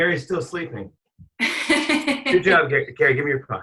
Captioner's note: laughs